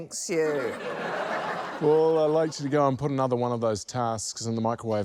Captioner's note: laughter